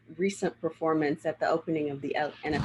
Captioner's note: none